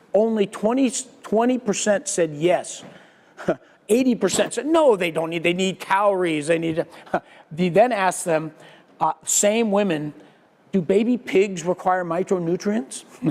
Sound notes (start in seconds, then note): 3.4 laugh